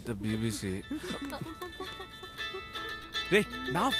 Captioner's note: Phone rings